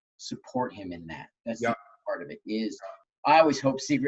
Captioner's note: murmurs